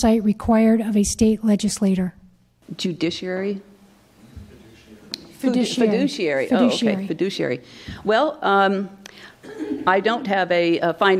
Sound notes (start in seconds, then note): 4.5 voiceover